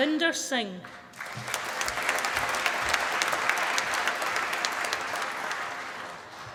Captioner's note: applause